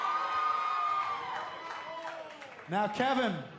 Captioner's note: cheers & applause